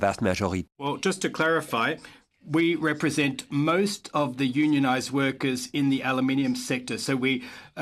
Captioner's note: speaking french